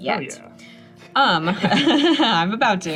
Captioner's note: laugh